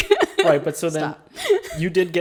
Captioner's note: laughs